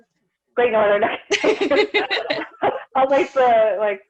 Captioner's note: laughter